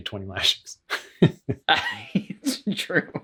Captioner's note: laughs